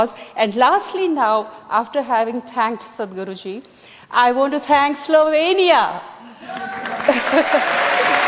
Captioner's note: cheering/Applause